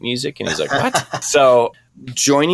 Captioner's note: laughter